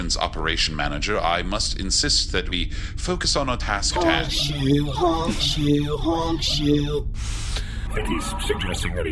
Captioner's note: imitating snoring noises